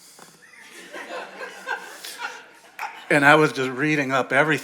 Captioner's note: audience laughing